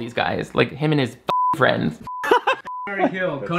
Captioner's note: beep